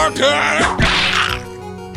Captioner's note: whip crack!